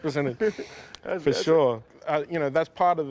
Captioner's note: laughter